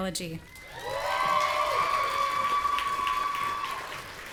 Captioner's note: audience cheering